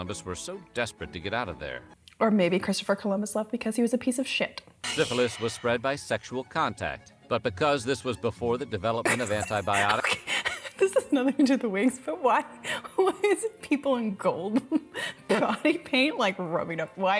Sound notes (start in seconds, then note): 9.0 laughing